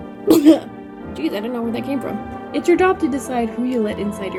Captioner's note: cough, that sounded like a sneeze